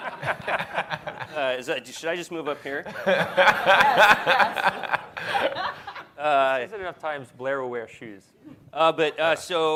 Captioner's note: laughter